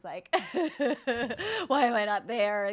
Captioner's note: sobbing